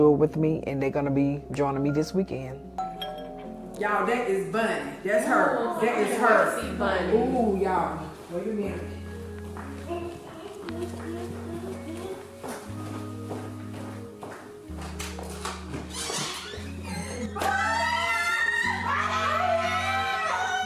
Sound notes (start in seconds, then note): 2.8 door bell ringing; 9.9 humming; 11.6 foot steps plodding; 17.7 both squealing